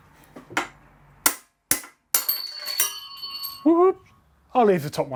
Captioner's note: hammer banging